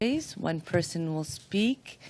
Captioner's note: speaking in French